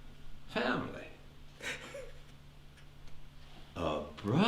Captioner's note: Ron weeping